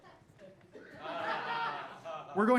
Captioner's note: audience laughing